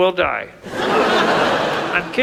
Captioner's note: audience laughs